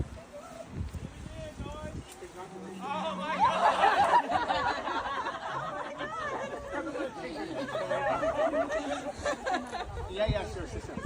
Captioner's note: laughter